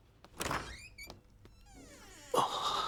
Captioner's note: washroom door opens